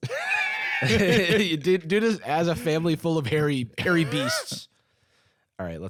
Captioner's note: laughing